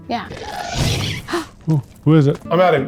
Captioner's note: monster squeals